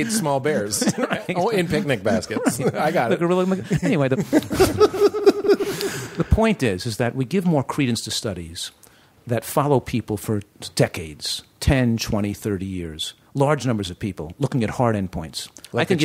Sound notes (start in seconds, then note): 3.3 laughter